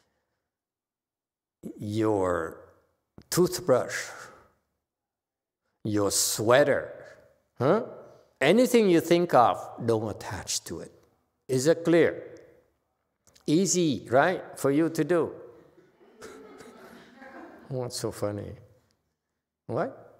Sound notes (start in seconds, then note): 15.6 audience laughs